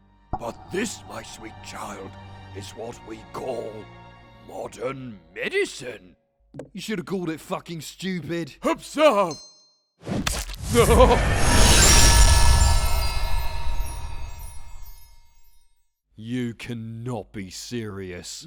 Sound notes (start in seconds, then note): 10.8 questionable moan